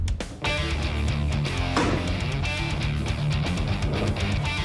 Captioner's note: thunks